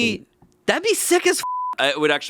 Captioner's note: beeping